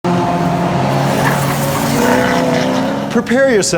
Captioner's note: engines roaring